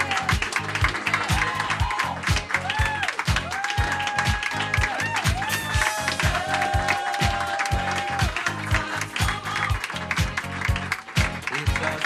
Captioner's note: applause